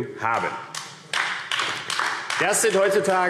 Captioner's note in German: Beifall AfD